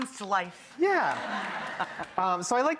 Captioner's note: audience laughing